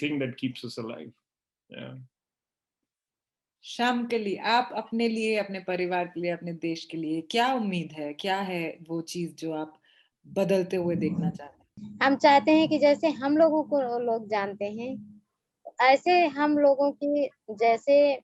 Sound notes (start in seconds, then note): 3.8 speaks foreign language; 12.0 speaks foreign language